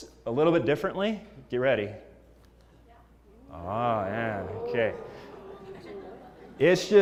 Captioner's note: laugh